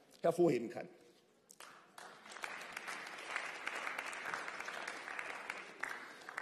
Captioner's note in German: Beifall